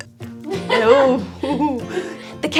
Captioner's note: laughs